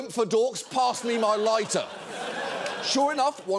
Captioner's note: audience laughing